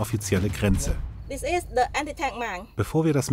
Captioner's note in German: englisch